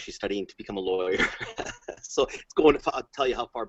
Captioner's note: laughs